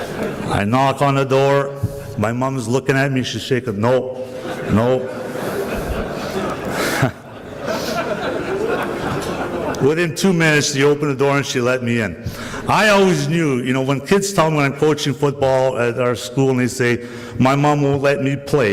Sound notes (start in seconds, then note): 4.2 laughter continues